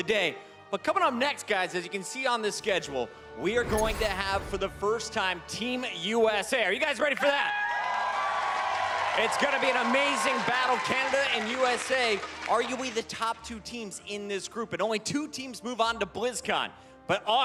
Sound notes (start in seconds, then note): 13.8 cheers and applause